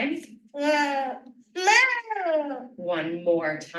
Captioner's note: vocalizing